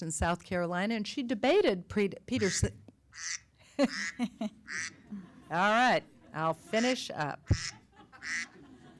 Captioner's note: duck Quacking; audience Laughing